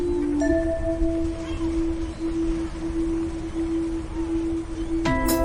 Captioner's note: sound of waves; sound of bells; refreshing music